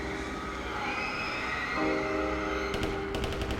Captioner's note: dramatic tense music; woman screaming; guns firing